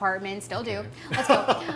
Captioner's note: laughs